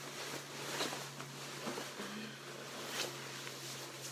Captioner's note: fabric rustling